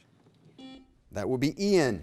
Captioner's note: buzzer beep